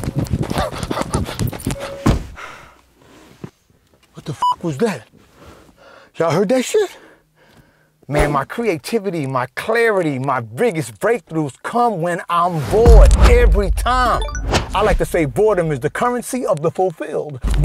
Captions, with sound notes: What the was (beep) was that? Y'all heard that shit? Man, my creativity, my clarity, my biggest breakthroughs come when I'm bored every time. I like to say boredom is the currency of the fulfilled.